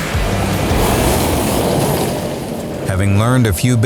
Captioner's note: car drifts